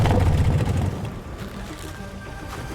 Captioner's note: motorcycle engine cuts